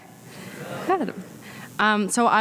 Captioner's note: audience responds